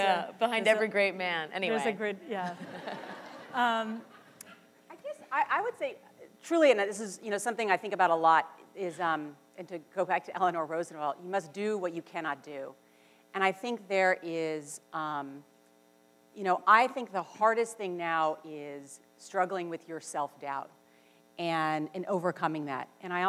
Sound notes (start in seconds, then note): 4.1 laughter